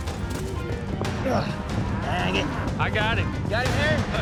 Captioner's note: grunts